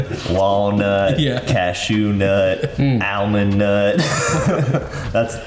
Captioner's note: all laughing